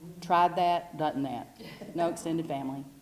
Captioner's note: laugh